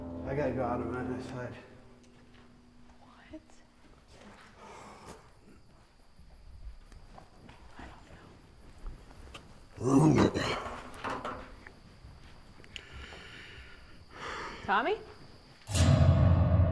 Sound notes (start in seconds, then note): 3.6 piano stops; 9.8 clearing throat